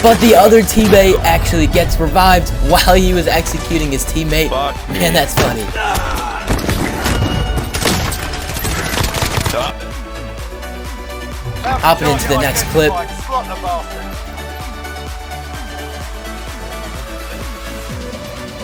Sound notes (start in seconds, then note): 6.2 player yelling; 8.1 gun firing; 15.8 upbeat music